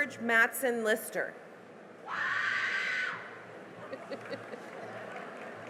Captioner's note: cheering and applause